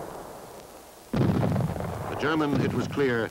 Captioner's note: explosions